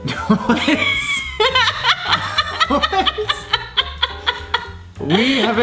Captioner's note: both laugh